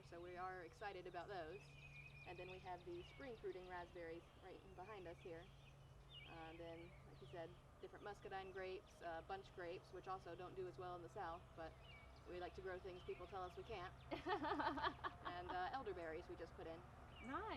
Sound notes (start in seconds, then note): 14.1 laughing